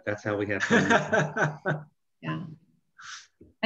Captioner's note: laughs